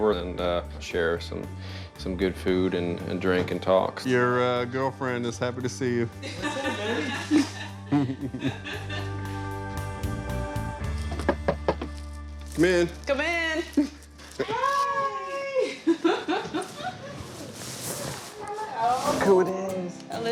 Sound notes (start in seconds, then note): 6.2 laughs; 8.0 chuckling; 11.2 knocks; 15.5 laughing